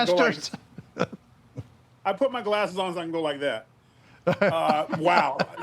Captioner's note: laughs; laughs